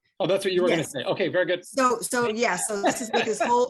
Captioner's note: laughs